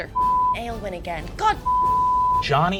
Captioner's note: beep